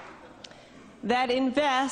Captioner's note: applause